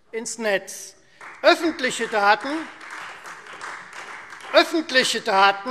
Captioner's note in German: Beifall Freie Demokraten